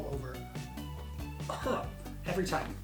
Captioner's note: coughs